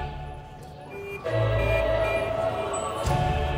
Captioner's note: honking